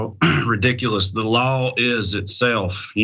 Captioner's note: cough